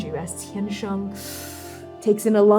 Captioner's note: breathing in